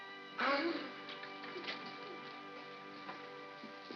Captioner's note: gasps